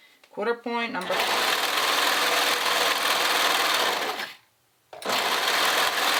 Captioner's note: sewing machine whirring